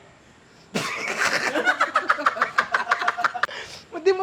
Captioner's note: laughter